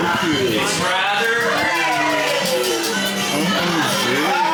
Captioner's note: people chattering